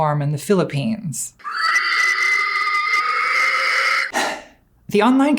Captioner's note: hog Squealing